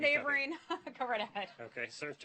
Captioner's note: laughter